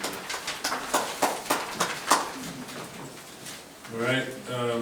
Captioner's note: group applauding